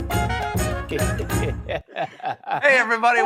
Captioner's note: laughter